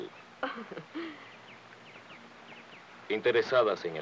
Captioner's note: Rose laughs